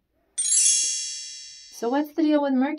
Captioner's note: chimes